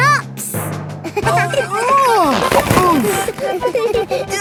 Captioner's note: giggling; grunting; giggling